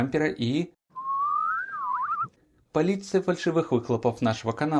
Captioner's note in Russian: Свистит